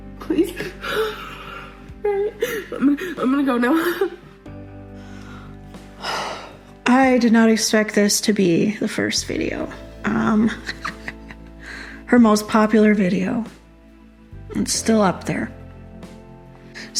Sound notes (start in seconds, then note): 6.0 sigh